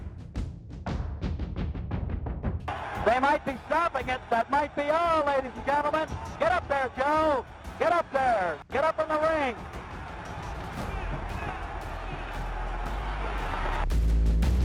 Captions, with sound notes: They might be stopping it. That might be all, ladies and gentlemen. Get up there, Joe! Get up there. Get up in the ring! (audience cheering)